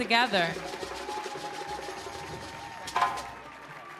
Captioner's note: drum roll; people cheering